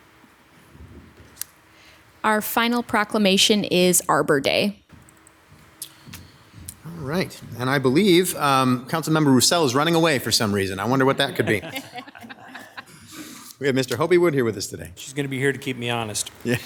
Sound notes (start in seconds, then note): 11.0 audience laughs